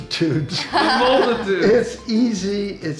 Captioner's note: laughs